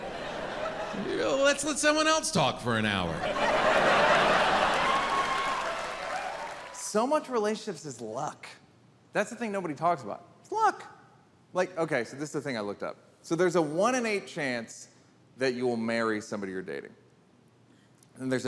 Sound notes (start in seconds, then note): 3.4 audience applauds and cheers